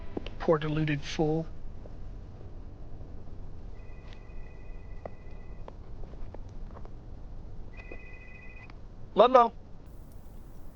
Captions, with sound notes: Poor, deluded fool. (phone rings) Ludlow.